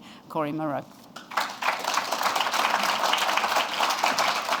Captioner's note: applause